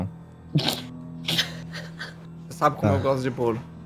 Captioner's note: laughter